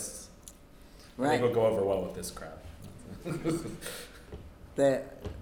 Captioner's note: laughs